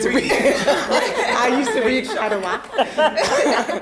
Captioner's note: all laughing; laughing